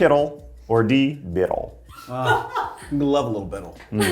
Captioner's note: cast member laughing